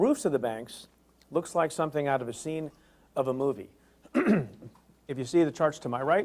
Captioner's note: clears throat